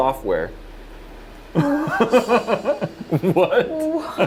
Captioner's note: more nervous laughter